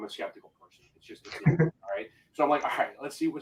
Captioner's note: voice muffling